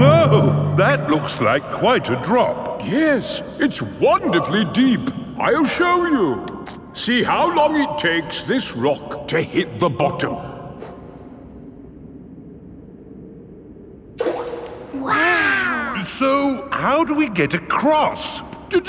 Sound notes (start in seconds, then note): 14.2 rock plops